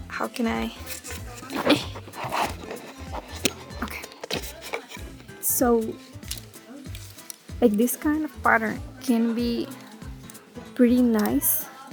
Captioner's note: struggling